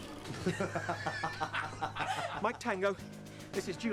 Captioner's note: all laughing